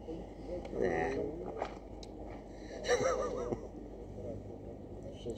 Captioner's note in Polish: śmiech